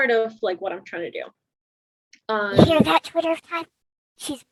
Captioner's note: false whisper